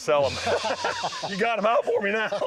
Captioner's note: laughter